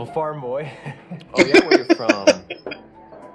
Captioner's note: laughing